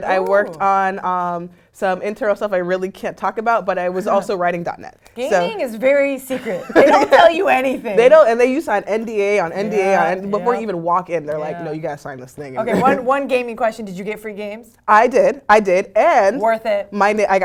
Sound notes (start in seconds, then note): 6.4 laugh; 12.6 laugh